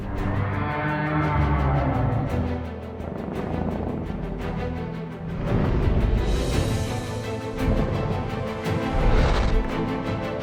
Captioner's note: Godzilla growls